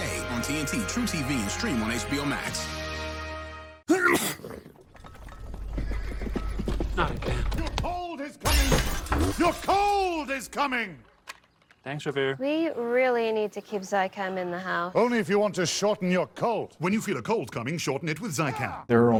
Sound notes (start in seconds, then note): 3.9 sneeze; 6.5 hooves approaching